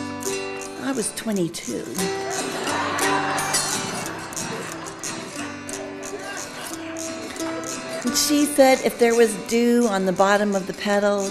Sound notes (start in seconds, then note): 0.0 playing autoharp; 2.0 audience laughing